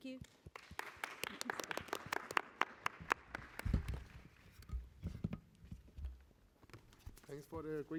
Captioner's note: applause